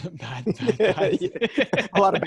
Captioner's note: laughs